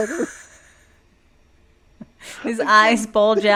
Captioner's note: laughing